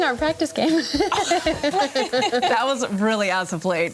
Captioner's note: all laugh